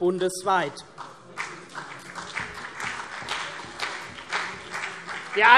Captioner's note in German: Beifall CDU und BÜNDNIS 90/DIE GRÜNEN